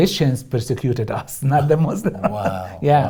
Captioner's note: laughs